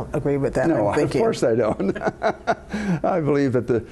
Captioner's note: laughter